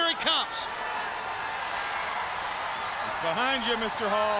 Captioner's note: crowd cheering